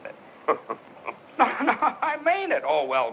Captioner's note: Pete chuckles